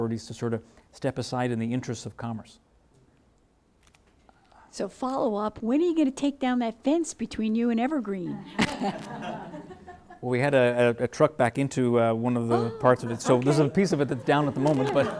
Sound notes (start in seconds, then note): 8.4 laughing; 15.0 laughing